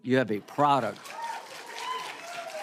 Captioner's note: cheering and applause